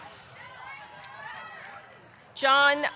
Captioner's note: audience cheering